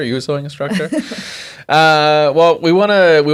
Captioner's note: laughs